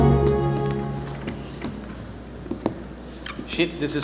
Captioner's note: boots squeaking; footsteps thudding